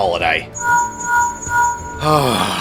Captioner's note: Linkshell ringing; sigh